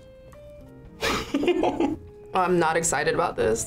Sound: laughs

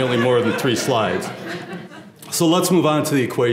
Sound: laugh

